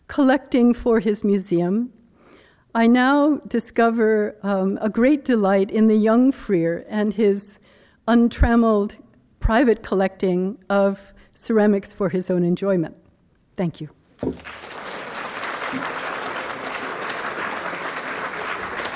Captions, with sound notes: collecting for his museum, I now discover a great delight in the young Freer and his untrammeled private collecting of ceramics for his own enjoyment. Thank you. (applause)